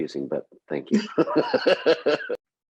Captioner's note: laughter